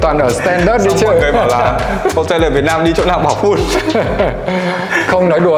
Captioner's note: laugh